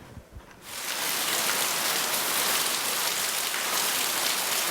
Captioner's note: water splashes